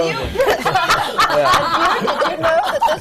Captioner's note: laughter